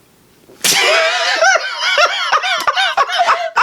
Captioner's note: laughter